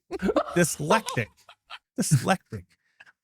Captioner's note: laughing